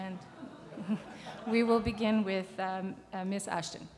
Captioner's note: crowd laughs